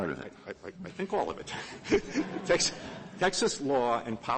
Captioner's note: laughter